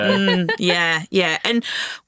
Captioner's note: chuckling